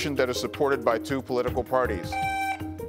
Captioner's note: buzzer beeps